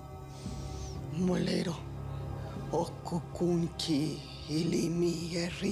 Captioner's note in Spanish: en su lengua